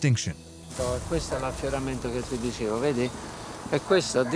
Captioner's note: speaking Italian